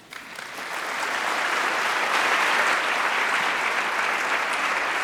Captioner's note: audience applauds